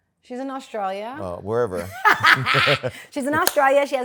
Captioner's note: laughter